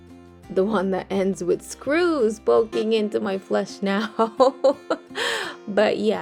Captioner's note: chuckles